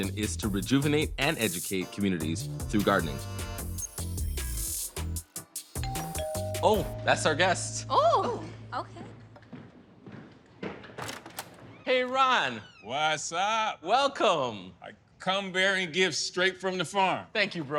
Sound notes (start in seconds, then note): 5.8 doorbell dings